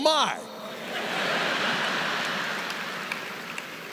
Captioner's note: laughter